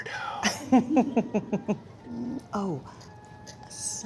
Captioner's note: laughs